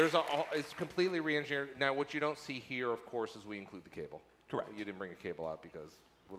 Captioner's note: applause